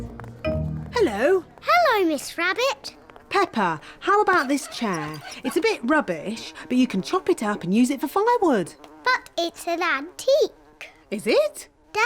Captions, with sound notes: -Hello! -Hello, Miss Rabbit. -(FLIES BUZZING) -Peppa, how about this chair? It's a bit rubbish, but you can chop it up and use it for firewood. -But it's an antique. -Is it?